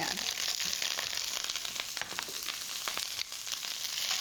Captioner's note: sizzling